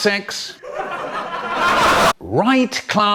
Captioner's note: hysterical Audience Laughter; slowly Becomes EARRAPE